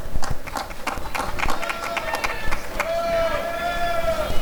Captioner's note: applause and cheering